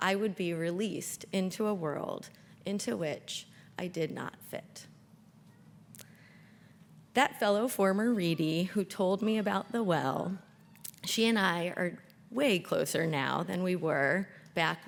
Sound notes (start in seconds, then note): none